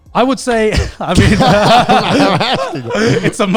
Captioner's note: everyone laughs